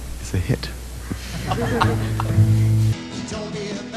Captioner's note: audience laughs